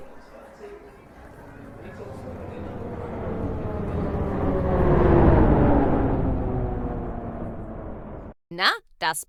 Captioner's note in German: Zuggeräusche